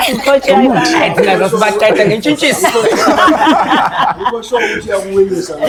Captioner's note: laughter